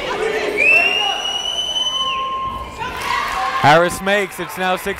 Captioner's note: whistling